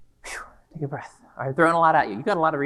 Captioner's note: exhales